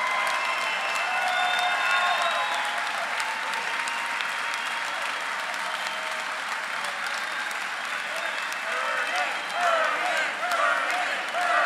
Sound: applause; crowd chanting “Bernie”

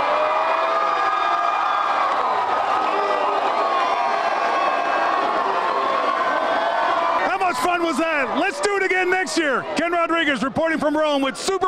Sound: cheers and applause

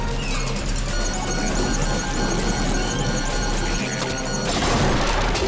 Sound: beeping

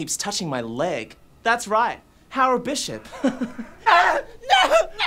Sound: chucking

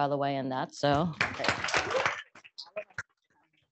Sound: applause

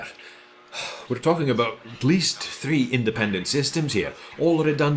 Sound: sigh

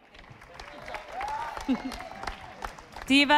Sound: audience applauding

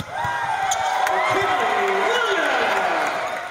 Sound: cheers

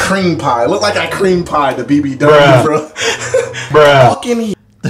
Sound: laughs

